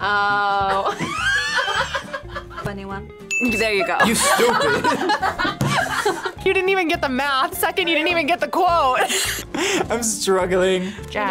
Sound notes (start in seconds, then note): 0.6 laughs; 4.0 both laugh; 9.3 laughs